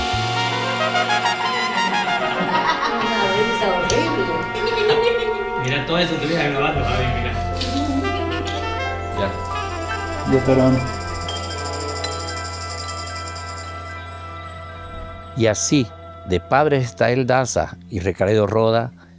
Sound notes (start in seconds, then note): 2.1 laughter; 4.5 horrible laugh